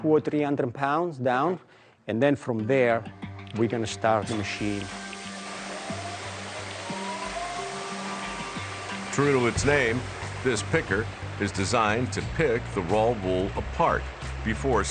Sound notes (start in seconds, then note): 6.8 machine whirring